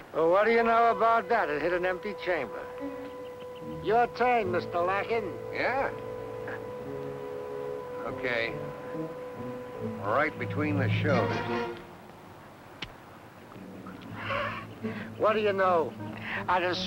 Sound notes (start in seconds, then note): 12.8 gun clicking; 14.0 Malamos chuckling